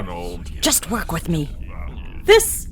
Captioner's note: whispered